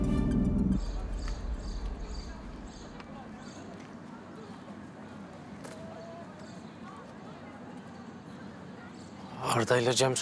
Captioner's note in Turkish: Kuş cıvıltıları